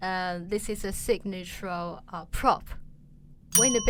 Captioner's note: bell rings